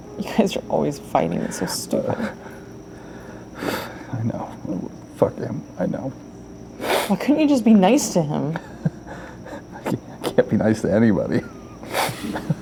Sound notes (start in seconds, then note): 2.9 sighing; 6.8 crying; 11.4 laughing bitterly